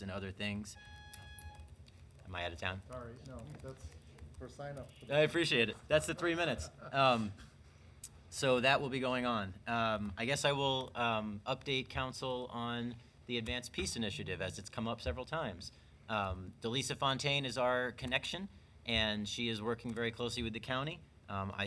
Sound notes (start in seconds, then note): 0.6 alarm buzzing; 6.6 laughing